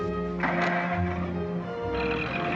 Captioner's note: engine starting